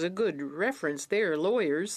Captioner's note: speaking French